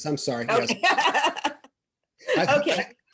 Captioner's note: laughs loudly